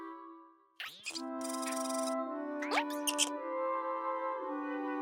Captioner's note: animal noises